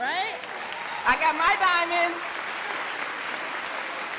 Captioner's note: crowd applauding